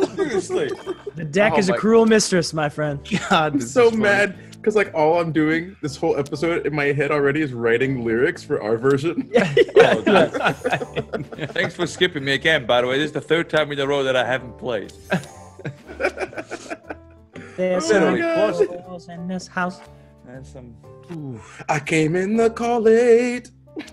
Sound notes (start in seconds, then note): 0.0 laugh; 9.2 laugh; 15.1 laugh